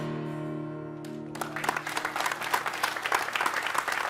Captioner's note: applause